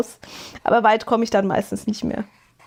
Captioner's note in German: schnauben